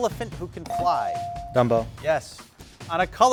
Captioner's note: bell dings